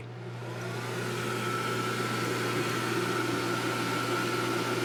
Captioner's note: dyer whirling